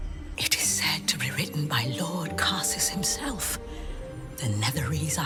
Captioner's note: whispers